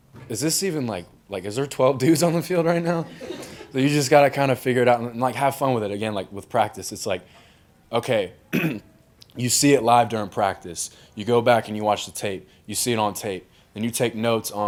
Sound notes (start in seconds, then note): 2.8 crowd laughs; 8.5 clears throat